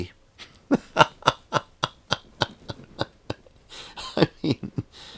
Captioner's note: laughing